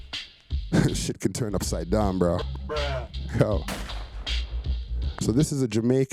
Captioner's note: laugh